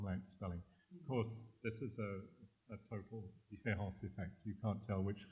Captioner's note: french